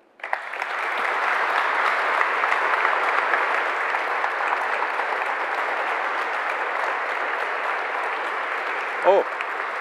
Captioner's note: applause